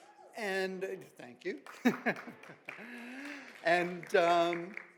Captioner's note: audience applauds